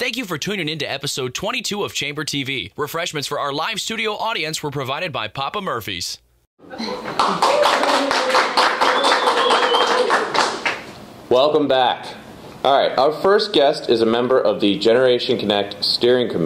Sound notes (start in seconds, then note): 7.0 cheering and applause